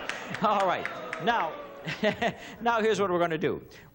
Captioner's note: laughs